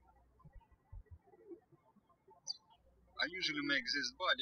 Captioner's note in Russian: птички щебечут